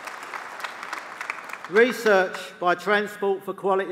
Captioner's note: applause